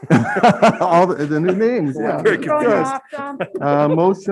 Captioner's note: members laughing